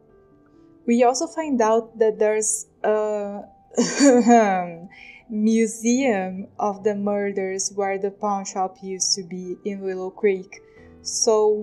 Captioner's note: cough cough